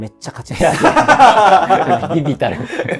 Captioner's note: laughing